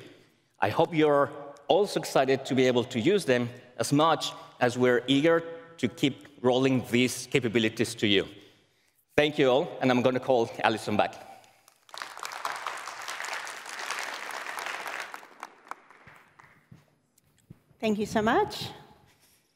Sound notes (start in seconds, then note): 11.4 applause